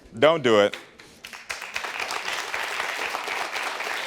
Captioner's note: audience clapping